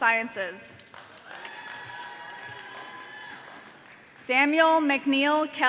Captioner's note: audience cheering